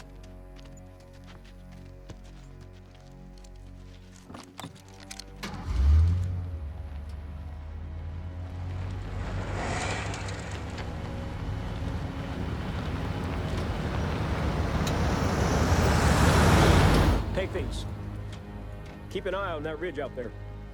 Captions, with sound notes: (engine starting) (Humvee rumbling) Take these. Keep an eye on that ridge out there.